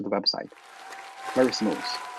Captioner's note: applause